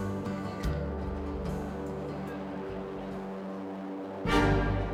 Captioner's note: engine hums; dramatic opera music